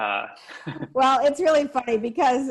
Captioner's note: chuckles